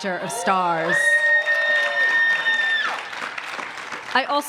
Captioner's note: applause